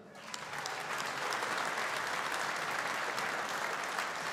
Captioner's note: audience applauding